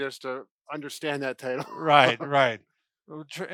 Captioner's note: laughs